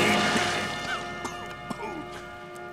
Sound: coughing

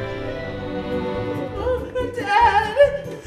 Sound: sobbing

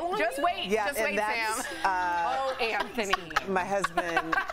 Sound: laughter

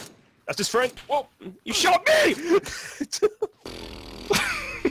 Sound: laughing

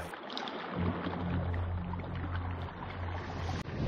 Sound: water bubbling

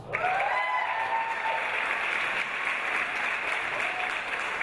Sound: audience applause

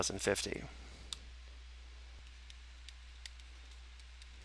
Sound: mouse clicking

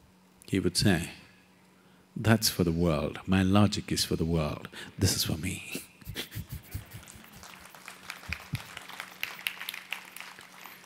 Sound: laughs/Applause

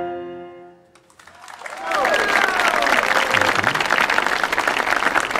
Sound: audience applauding

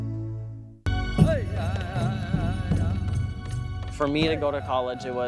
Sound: chanting; voiceover

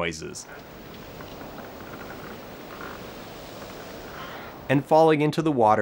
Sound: wind and boat noises

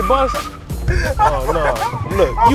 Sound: laughing

